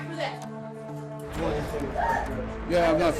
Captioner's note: indistinct chatter